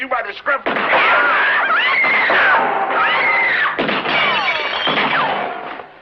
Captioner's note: gunshots; girls screaming